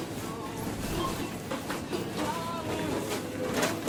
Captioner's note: checkout beeping